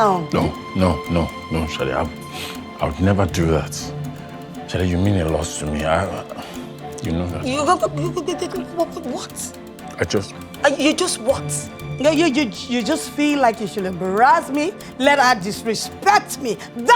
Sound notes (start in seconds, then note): 6.9 mimicking sound